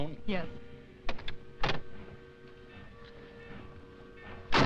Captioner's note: bell clanging; car door slamming